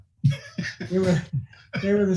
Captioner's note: laughing